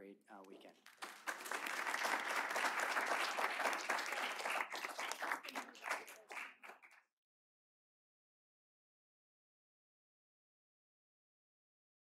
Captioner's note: applause